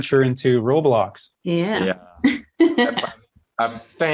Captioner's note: laughs